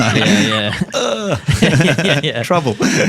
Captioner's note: all laughing; grunts